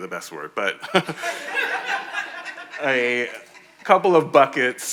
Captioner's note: audience laughing